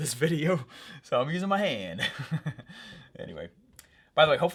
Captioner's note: laughs